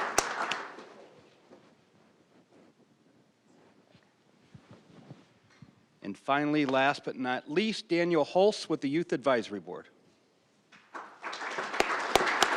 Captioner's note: applause